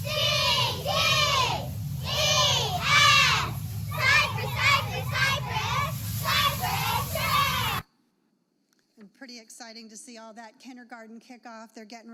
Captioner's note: cheerleaders leading a cheer